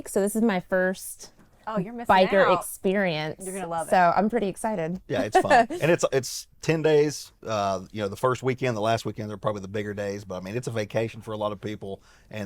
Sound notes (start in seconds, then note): 5.1 laughs